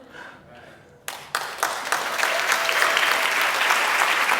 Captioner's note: applause